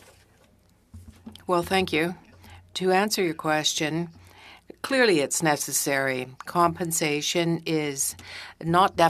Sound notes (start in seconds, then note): 6.8 speaking french